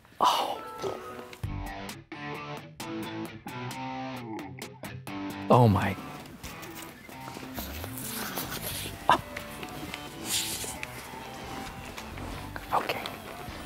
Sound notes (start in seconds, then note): 1.5 rock music; 9.0 Steve gasps